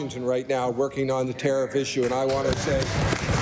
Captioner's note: applause